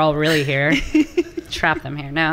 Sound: laughing

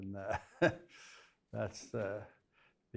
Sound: laughs

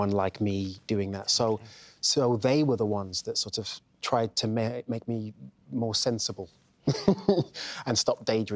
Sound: laughs

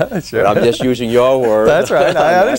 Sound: laughs

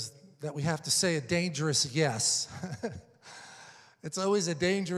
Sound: chuckles

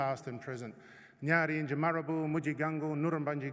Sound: non-english speech

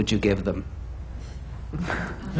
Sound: laughter

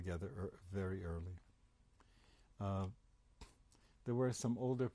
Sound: pauses for 3 seconds

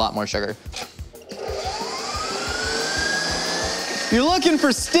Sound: mixer whirring

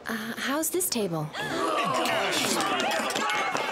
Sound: patrons yelling, screaming

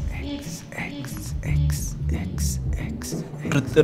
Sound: echoing

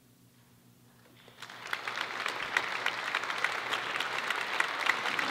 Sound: audience applauding

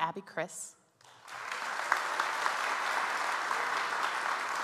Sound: audience applauds

